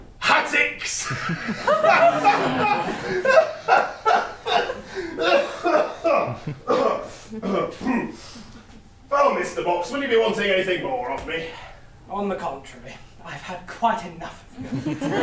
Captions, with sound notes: hattics! Hahahahahaha! [cough, cough, cough] Well, Mr. Box - will you be wanting anything more of me? On the contrary - I’ve had quite enough of you!